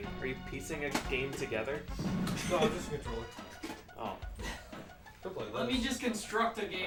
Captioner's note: rummage